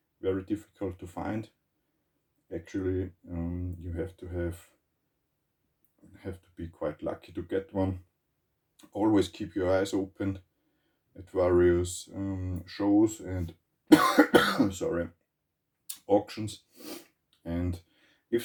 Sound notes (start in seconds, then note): 13.9 coughs